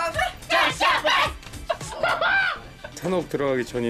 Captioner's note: started laughing